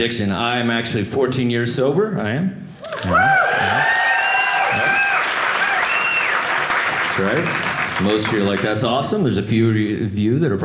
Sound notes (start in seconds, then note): 2.8 audience cheering